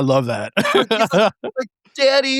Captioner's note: laughing